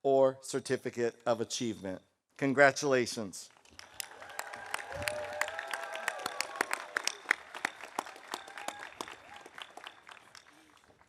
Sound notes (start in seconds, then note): 3.7 audience applauding; 3.9 audience cheering